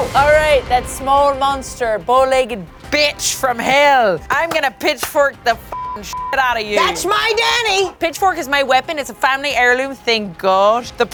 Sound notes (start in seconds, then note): 0.0 Amadeus hissing; 5.7 beep